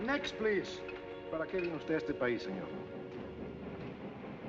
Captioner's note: speaking spanish